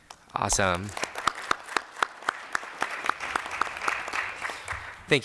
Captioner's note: applause